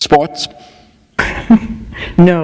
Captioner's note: laughter